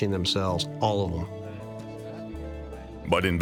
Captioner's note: gentle foreboding music; people chattering